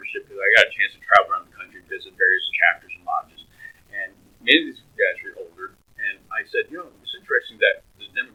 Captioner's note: laughs